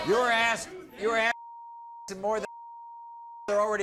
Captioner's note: beep